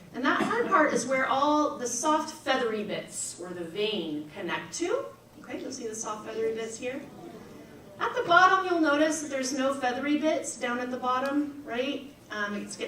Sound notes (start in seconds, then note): 6.7 audience murmurs